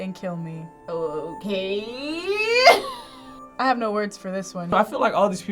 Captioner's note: laughs